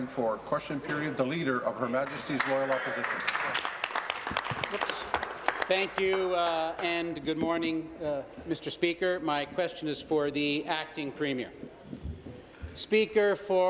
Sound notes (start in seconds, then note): 7.7 applause